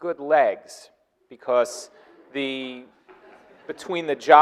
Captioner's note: audience laughing